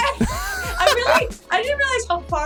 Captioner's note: laughs; chuckles